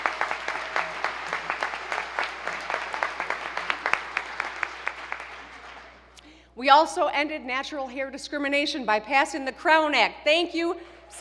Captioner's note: applause